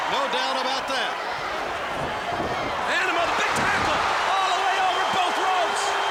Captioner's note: applause